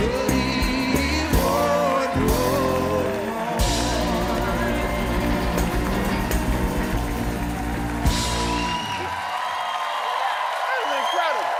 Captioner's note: cheers and applause